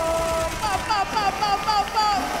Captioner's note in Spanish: Aplausos